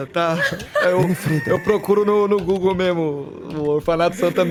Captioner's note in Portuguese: Risos